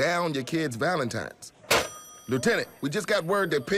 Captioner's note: phone slams